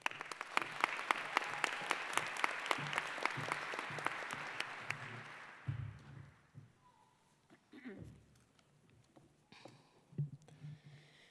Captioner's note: applause